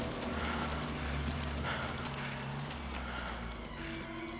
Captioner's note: soldier panting